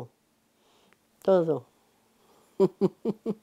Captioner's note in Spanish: Ríe